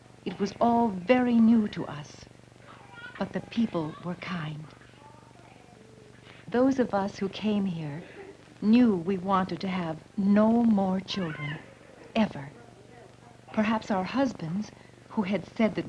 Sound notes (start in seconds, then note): 4.7 children fussing